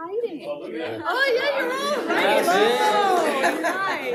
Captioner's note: people chatter